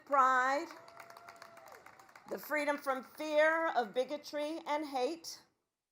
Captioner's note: applause